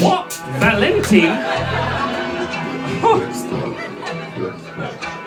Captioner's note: audience laughs